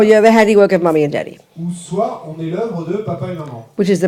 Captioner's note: French